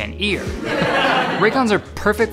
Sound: laughs

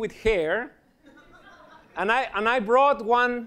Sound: laughter

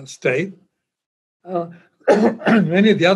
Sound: coughs

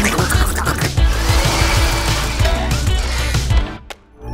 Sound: triumphant music playing; upbeat music playing; whirring

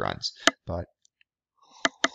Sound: sipping coffee and tapping continues; tap

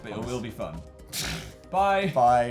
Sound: snorts

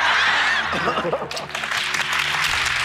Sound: applause

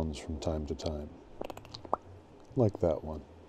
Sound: series of clicks and pops

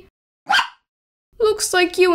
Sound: bark!

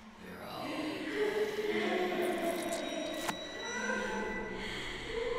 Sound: voices sobbing and whispering

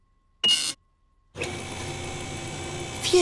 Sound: beeping

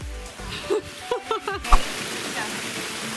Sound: laughs

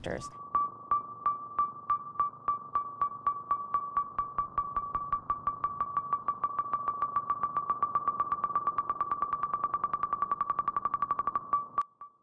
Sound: rapid pinging

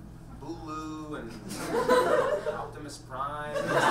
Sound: audience laughs

